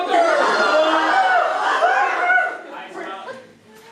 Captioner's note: screaming